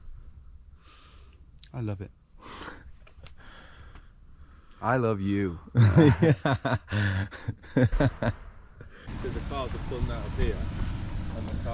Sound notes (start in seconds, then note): 3.2 chuckles; 5.8 laughs